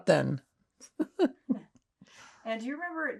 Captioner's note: laughing